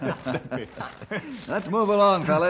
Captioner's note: laughter